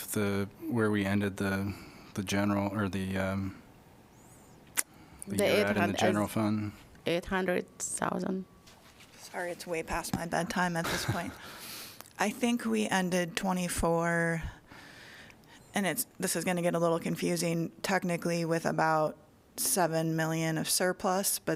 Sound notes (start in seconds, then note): 10.8 laughter